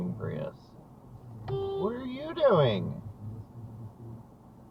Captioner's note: beep!